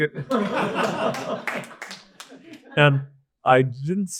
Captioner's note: audience laugh